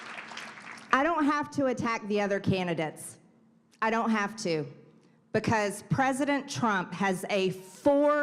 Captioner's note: applause